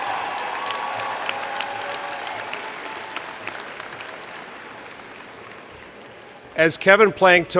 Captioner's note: cheers